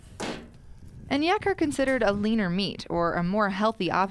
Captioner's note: voiceover